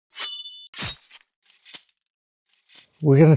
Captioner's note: sword slashes